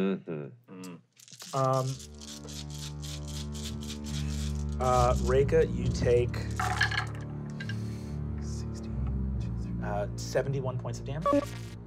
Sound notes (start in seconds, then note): 1.1 dice rolling; 6.4 dice rolling